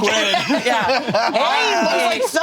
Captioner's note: all laughing